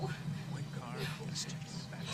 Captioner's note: light whispering